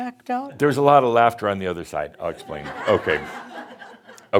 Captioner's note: some chuckles